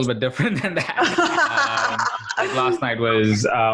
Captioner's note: laughing